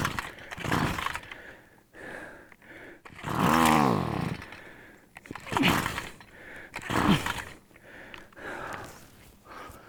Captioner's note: sounds of trying to start a gas weed eater